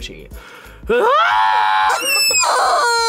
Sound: screams; chicken squeals

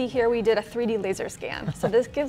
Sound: laughing

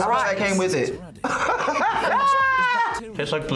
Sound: laughs

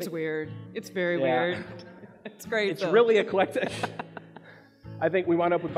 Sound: laughs

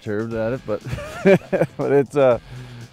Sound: laughter

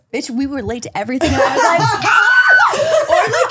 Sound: screams

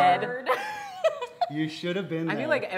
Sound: laughs

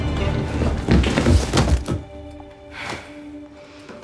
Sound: body smashing

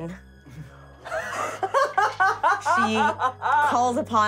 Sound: laughing

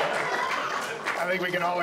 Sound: audience laughs; audience applauds

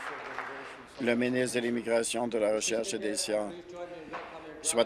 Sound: applause

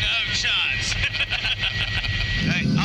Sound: all laughing

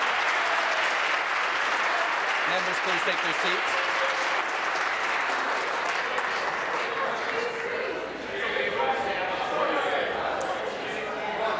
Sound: applause

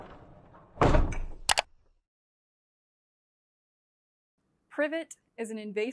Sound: computer mouse clicking

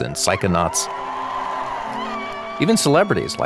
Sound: audience cheering

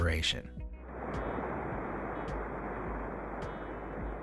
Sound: dirt crashing

